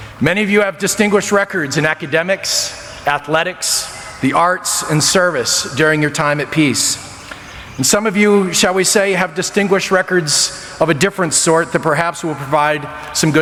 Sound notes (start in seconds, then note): none